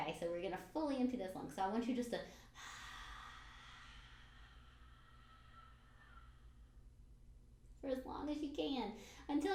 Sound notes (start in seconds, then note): 2.3 breathes out